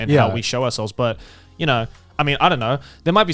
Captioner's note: affirmative murmuring